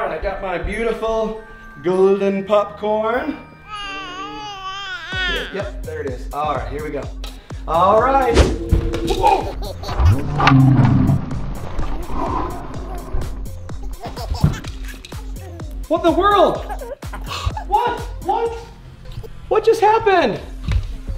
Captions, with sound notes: All right, I've got my beautiful golden popcorn. [baby babbles] Yep, there it is, all right, here we go. All right. [dad cries out] What in the world? What, what? What just happened?